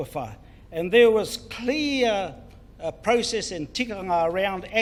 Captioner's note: foreign Language